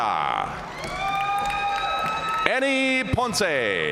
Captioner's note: audience cheering and applauding